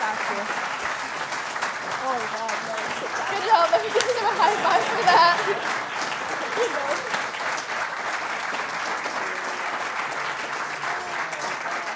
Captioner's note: applause